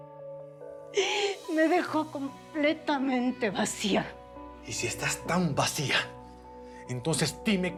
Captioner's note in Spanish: Sollozos